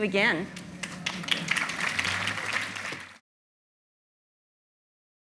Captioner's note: audience applauding